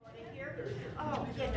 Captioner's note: people chattering